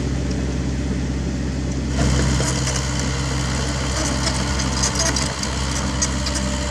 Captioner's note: hydraulic whine